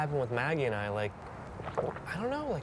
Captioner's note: gulping